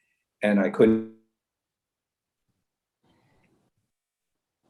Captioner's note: audio cuts out